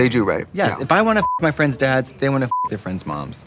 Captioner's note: beeping